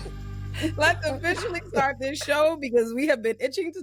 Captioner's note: laughing